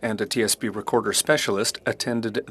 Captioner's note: speaking French